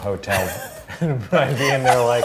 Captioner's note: laughing